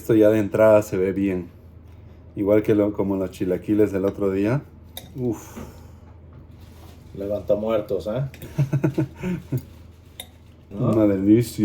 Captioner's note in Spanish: risas